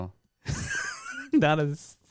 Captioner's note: laughs